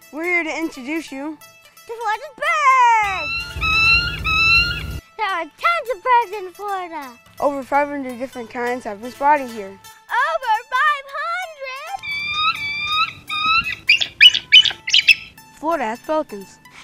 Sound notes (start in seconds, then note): 3.0 bird Squawk; 12.0 bird Squawk